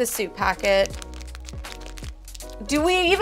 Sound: packet crackling

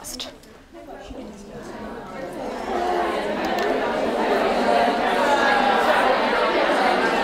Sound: attendees discussing amongst themselves

